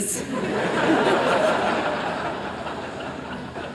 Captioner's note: laughter